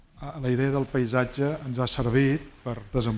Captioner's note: speaking spanish